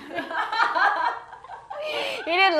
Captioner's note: laughs